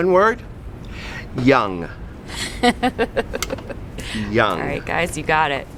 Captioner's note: laughs